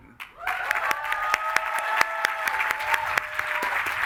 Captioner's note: crowd cheering